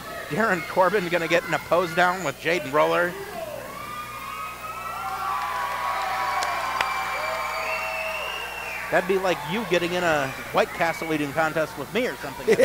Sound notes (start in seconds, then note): 5.0 audience cheering; 12.1 laughing